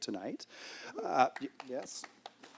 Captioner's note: applause